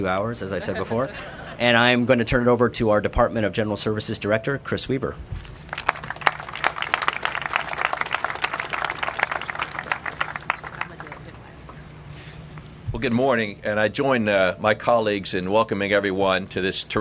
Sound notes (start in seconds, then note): 0.5 laughter; 7.5 applause